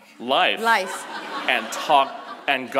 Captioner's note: audience laughs